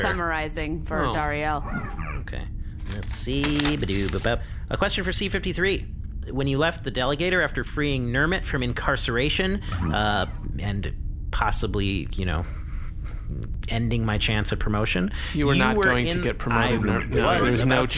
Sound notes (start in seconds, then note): 10.5 quietly